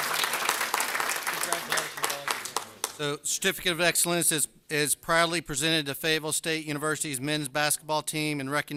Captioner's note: applause